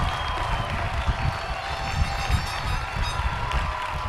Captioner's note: cheers and applause